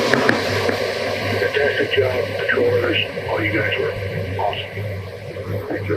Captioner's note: radio